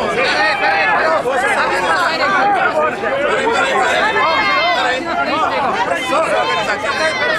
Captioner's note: fans yelling and talking